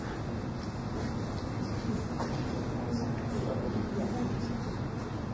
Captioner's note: overlapping chatter